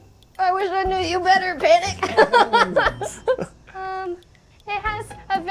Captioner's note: laughing